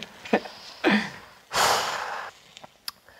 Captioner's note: sigh